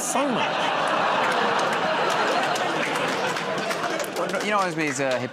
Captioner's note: laughter, groaning